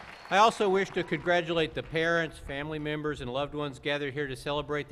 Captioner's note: cheers and app lause